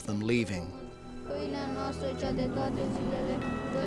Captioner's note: praying continues